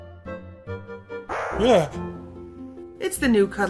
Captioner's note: startled noise